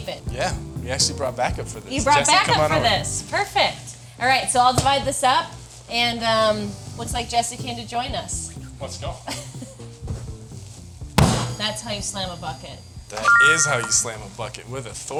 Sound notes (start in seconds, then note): 11.1 bucket slams; 13.0 text chiming brightly